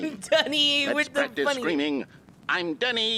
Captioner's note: laughing